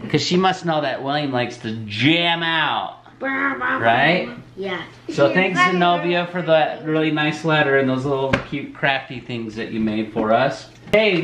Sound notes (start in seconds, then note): 2.6 makes electric guitar sounds